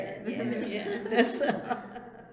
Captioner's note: laughs